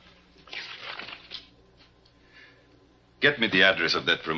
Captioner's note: paper rustling